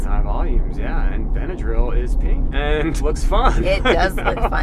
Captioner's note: laughs